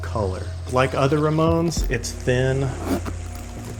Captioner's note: shoe zipping